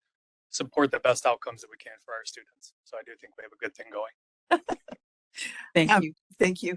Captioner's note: laughing